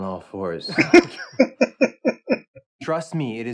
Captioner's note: laughing